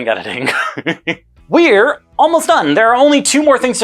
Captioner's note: laughs in amusement